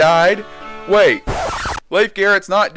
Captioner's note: record scratch